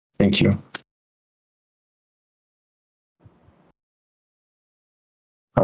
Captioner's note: microphone muted